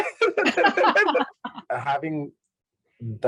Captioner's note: laughing